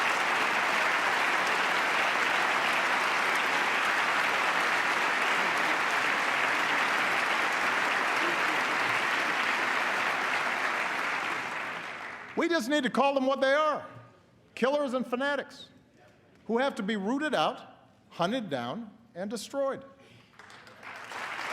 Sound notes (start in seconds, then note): 3.5 applause